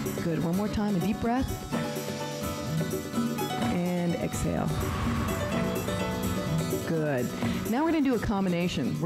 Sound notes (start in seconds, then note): 4.6 breath hisses